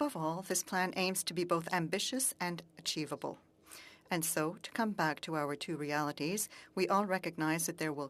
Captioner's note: speaking French